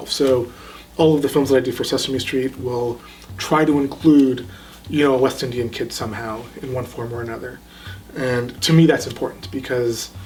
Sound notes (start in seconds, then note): none